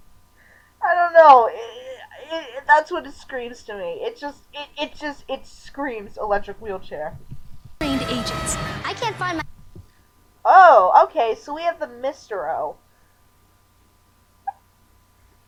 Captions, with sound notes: I don't know, (stammering) that's what it screams to me. It just- it- it just- it SCREAMS "electric wheelchair." - ...trained agents. (yelling) - I can't find my- Oh, okay, so we have the Mr. O.